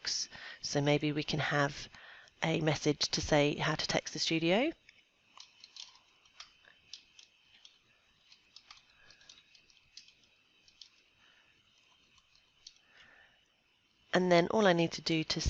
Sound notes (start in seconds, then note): 8.3 typing noises